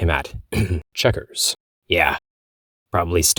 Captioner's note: ahem